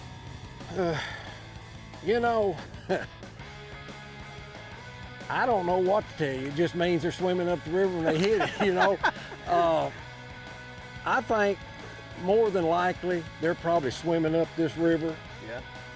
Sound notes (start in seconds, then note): 0.6 sighs; 2.6 chuckles; 7.9 laughs